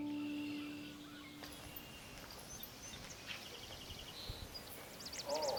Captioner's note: birds chirping